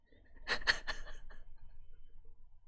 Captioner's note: laughs